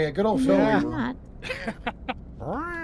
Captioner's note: laughing